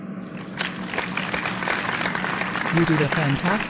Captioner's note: applause